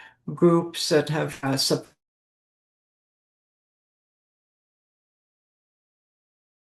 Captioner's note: briefly cuts out